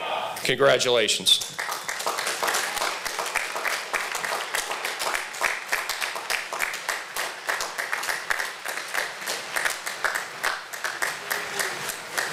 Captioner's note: applause